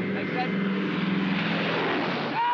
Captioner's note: aircraft roars